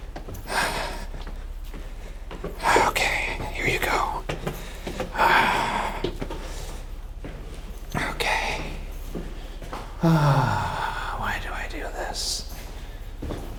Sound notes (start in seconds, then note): 0.6 exhales sharply; 1.4 shoes clacking; 5.4 exhales sharply; 9.4 sighs